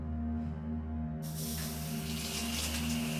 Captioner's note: water running